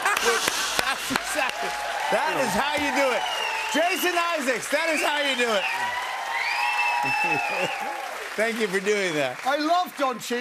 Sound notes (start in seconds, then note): 0.0 cymbal crash; 3.7 cheers and applause